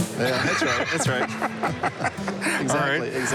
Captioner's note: laughter